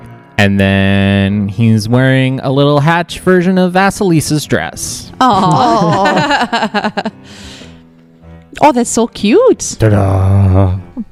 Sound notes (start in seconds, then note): 5.2 laughs